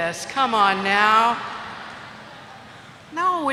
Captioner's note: laughter